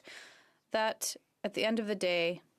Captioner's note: speaking French